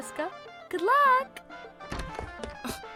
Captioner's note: door opening and lighter footsteps